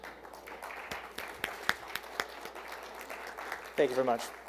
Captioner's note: attendees applauding